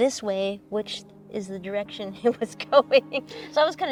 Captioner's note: laughs